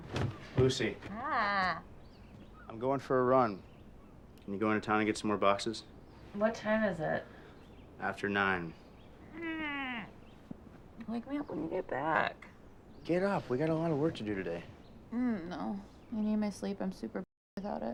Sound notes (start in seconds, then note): 1.0 groan; 9.2 groan